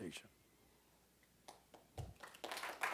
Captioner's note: applause